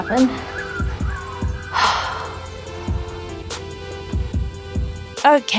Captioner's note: sigh